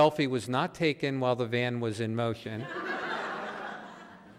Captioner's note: audience laughing